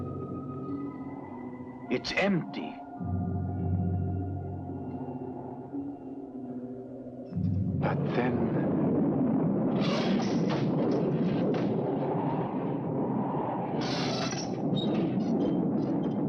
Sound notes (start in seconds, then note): 8.9 thunder rumbling; 10.0 door creaking; 10.0 wind howling